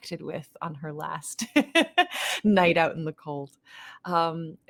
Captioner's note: laughing